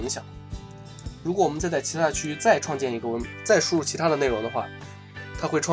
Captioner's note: continue to slur